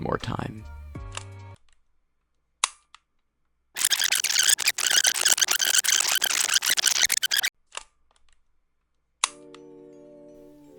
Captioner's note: rewind effect